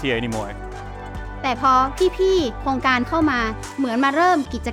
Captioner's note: woman speaking Thai